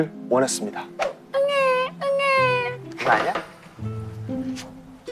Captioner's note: crying